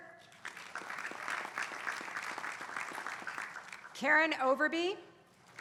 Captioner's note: applause